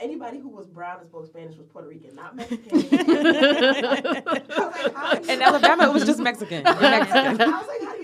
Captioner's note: laughter